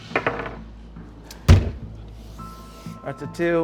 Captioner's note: die rolling; slams table